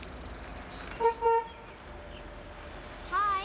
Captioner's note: horn honking